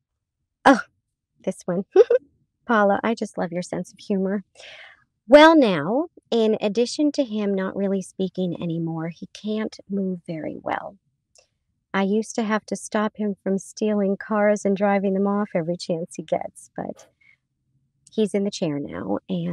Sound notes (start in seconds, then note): 1.9 chuckles